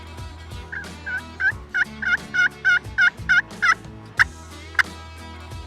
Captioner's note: imitating turkey call